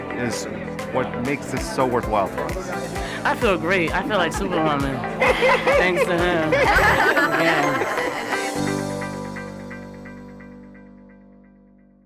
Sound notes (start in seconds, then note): 6.6 laughing; 7.6 soft music